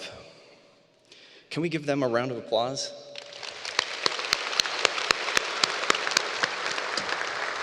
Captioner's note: applause